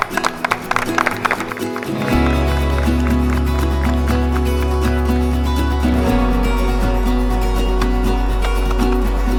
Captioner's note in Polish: Aplauz